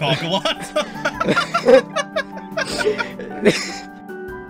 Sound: both Laughing

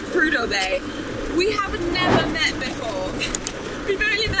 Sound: chuckles

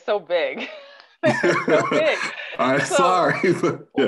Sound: both laugh

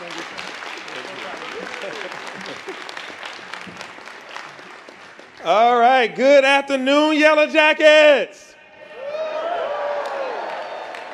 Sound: applause

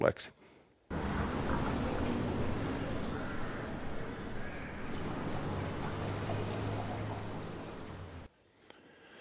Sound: whooshing transition noise

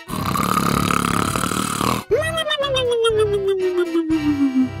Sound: exaggerated snoring

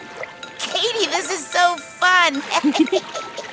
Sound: laughs

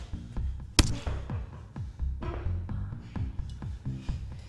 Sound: blow thuds

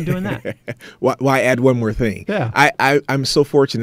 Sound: laughing

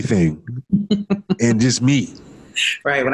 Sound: laughs

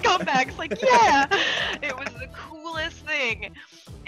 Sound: laugh

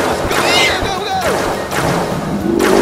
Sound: laser explodes; dragon squeals; lasers exploding; laser exploding

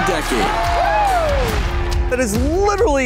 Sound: audience cheering

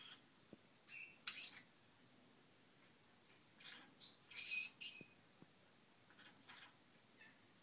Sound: unintelligible bird ramblings

